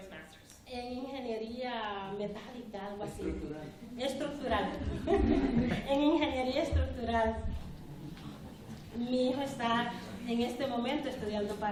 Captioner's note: speaking spanish